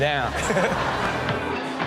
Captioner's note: all laugh; upbeat music